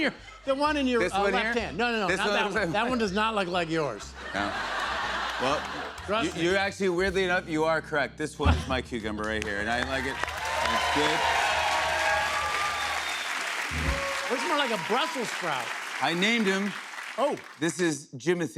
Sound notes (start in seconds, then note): 4.0 laughter; 11.2 cheers and applause